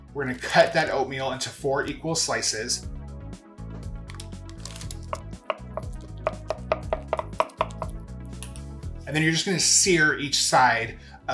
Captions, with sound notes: We're gonna cut that oatmeal into four equal slices. (paper crinkles) (knife tapping) And then you're just gonna sear each side